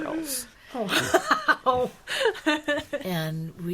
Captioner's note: laughing